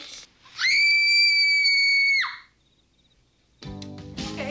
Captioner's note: Annie laughs; Susie screams